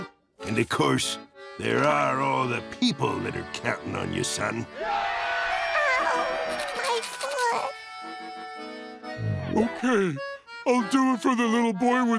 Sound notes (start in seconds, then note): 4.7 cheering